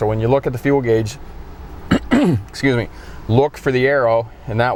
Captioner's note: clearing throat